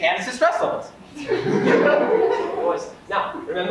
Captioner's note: audience laughs